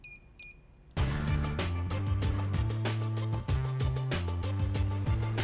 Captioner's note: beeping